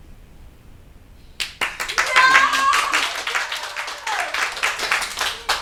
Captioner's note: everyone clapping and cheering